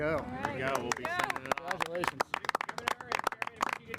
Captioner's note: all clapping